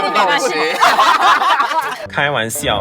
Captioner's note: burst out in laughs